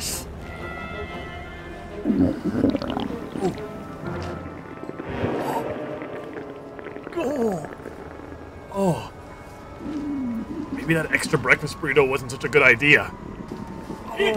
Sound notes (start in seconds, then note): 2.2 stomach gurgling